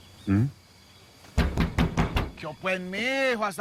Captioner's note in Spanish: Golpes en el carro